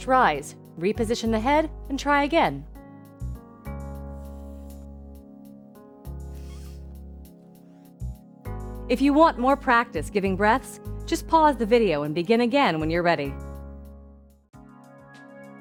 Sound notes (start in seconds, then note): 4.1 blowing